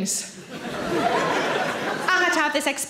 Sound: audience laughs

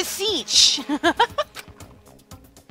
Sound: laughs

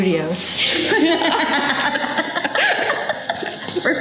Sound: laughter

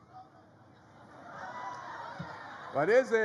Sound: audience shouts responses

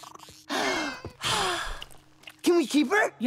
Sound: sighing

